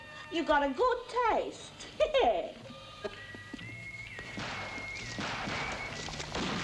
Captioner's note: chuckles